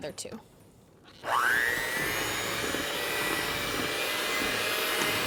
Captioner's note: mixer motor revving